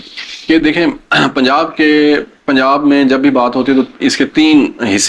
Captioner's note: clears throat